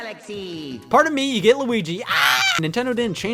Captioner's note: screams